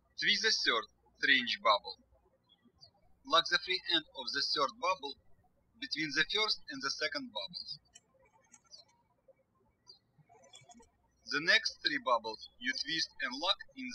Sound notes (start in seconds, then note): 8.6 birds chirping